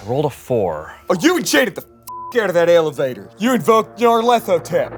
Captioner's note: beep